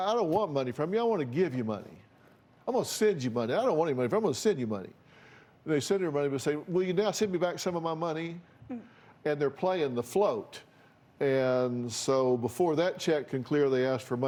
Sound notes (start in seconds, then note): none